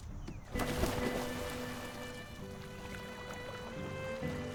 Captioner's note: splashes; soft orchestral music